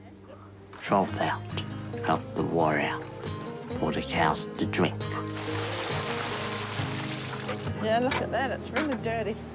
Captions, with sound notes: Trough out, hiff the water out for the cows to drink. (WATER SPLASHES) - Yeah, look at that. It's really dirty.